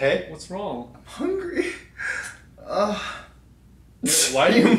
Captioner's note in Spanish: Gimiendo sonidos